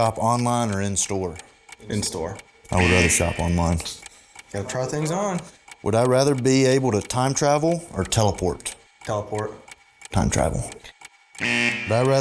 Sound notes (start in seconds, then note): 2.7 buzzer; 11.3 buzzer